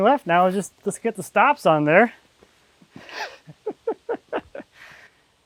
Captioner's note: laughs